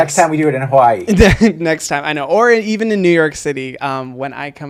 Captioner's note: laughs